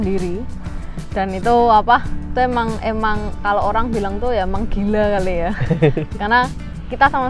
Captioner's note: chuckles